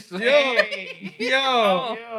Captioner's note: laughter